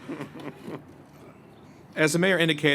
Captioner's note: laughter